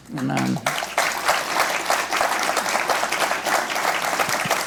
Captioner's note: congregation applauds